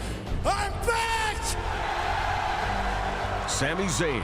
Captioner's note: cheers and applause